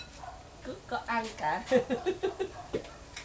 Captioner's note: laugh